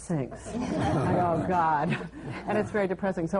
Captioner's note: laughter